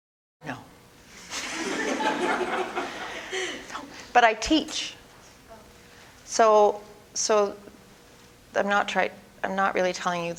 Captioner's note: audience: Laughter